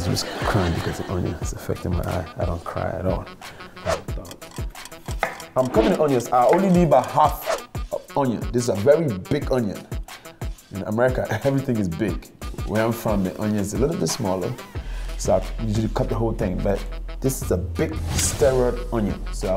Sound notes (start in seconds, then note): 4.1 clock ticks